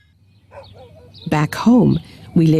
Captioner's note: dog barking